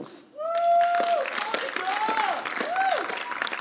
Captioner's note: applause